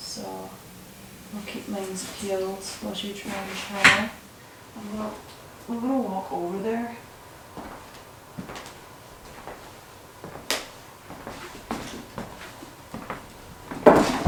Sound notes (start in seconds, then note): 7.4 footsteps